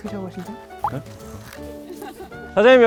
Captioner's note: rustling